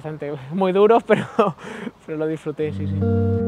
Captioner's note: laughing